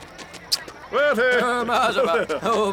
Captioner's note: lips smooching; gibberish speaking